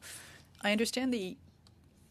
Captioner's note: speaking French